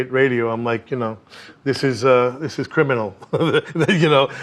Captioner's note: laughing